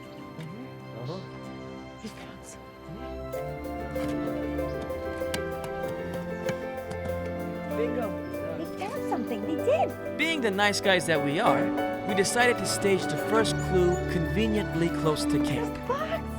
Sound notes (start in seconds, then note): 3.2 lighthearted music; 3.8 clunking sound